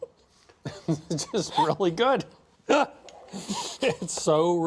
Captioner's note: laughs